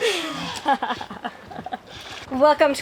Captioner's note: giggling quickly